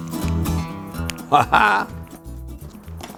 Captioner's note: laughs